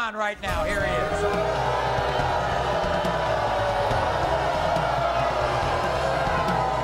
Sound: crowd booing

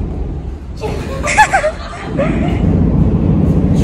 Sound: laughing

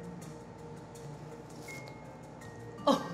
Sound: sips; chuckles

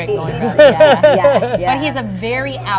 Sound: laughs

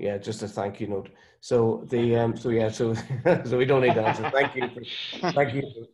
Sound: laughs

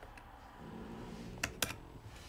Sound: Helga snores

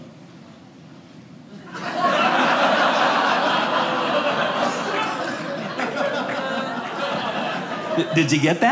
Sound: audience laughing

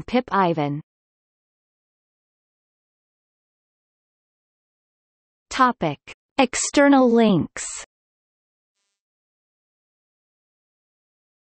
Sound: in Polish

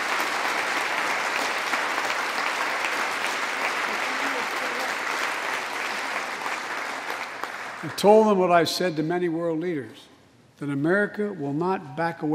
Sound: applause

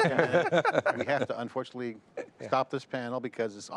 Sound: laughing

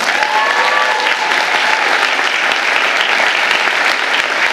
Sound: audience applauding

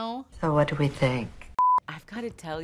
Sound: TV beeps

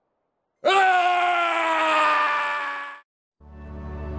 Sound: Trevor screaming; serene music

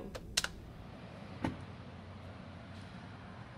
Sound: phone clicking

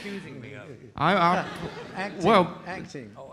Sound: audience laughing

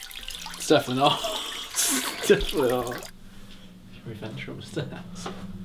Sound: laughs

